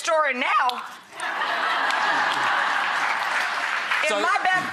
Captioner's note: laughter